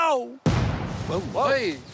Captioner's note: explosion